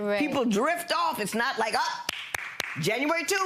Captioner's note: clapping